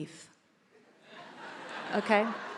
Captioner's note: attendees laughs